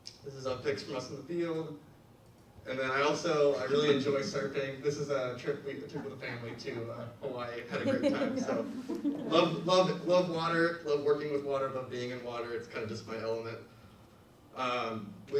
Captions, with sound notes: This is our pics from us in the field. And then, I also really enjoy surfing. This is a trip we took with the family to Hawaii, had a great time. (audience laughs) So love water, love working with water, love being in water. It's kind of just my element.